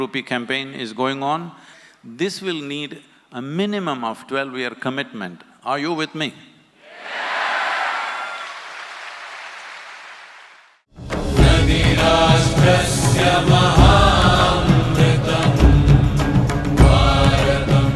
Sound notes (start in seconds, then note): 12.3 applause